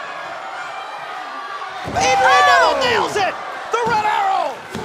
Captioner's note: cheers & applause